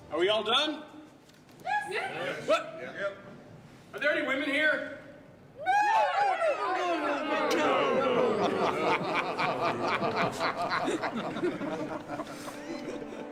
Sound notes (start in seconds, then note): 9.5 crew laughing